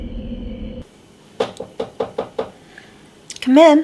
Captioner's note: knocking on door